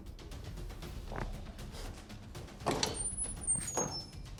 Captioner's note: door slamming; footsteps tapping; dramatic music continues